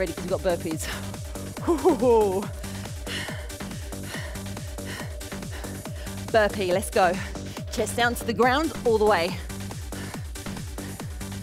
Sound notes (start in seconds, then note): 1.6 laughing